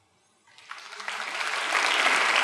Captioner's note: applause